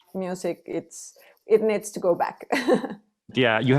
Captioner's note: laughs